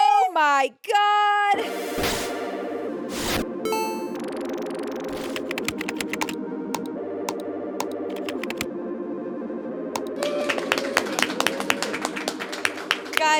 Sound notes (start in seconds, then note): 1.6 upbeat electronic music; 5.0 keyboard clacking; 5.1 mouse button clicking; 10.0 everyone applauds